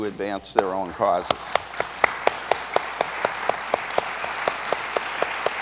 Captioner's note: audience applauds